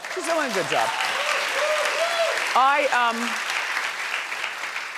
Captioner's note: audience cheering